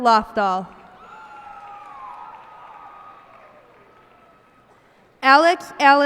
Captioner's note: cheers and applause